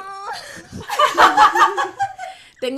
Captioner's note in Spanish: risas